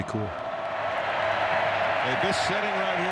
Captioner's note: crowd cheering